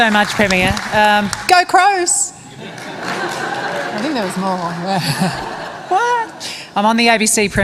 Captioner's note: applause; laughter